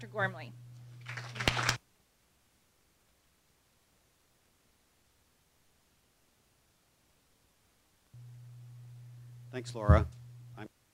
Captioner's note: applause